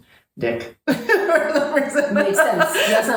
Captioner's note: laughter